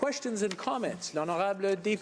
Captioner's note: speaking in French